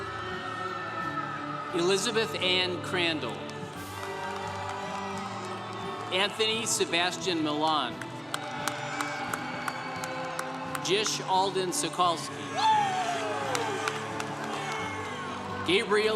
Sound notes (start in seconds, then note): 0.0 congregation cheering